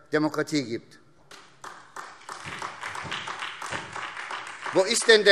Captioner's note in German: Beifall SPD und DIE LINKE